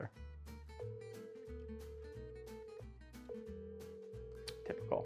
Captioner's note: phone ringing